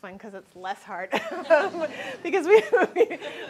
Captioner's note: laughs